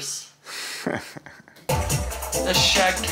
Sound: chuckling

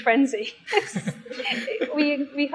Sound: both chuckling

